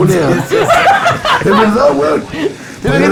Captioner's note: laughs